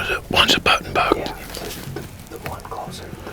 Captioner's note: whispering